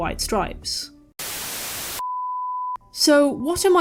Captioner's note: static